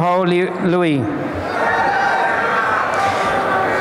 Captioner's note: applause and cheering